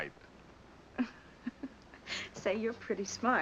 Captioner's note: laughs